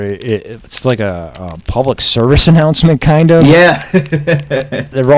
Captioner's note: laughs